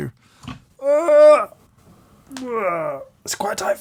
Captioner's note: grunting